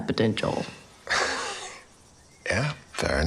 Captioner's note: chuckles